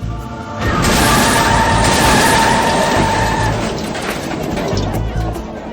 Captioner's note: tires screech